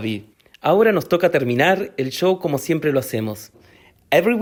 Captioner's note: speaking Spanish